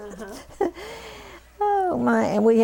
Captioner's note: laughter